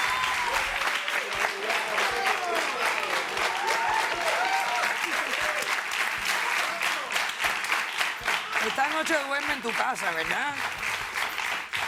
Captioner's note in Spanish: Aplausos